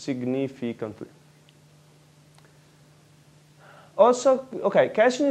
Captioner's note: pause